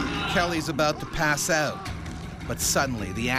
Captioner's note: voiceover